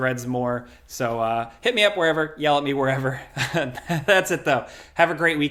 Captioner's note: laughs